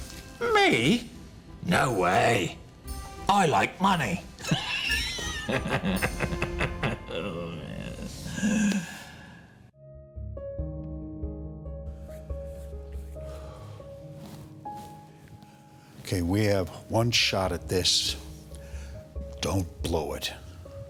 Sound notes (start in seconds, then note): 4.4 laughs; 9.6 slow tempo music